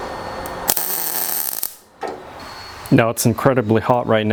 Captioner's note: torch buzzing